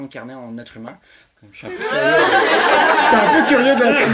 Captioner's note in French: rires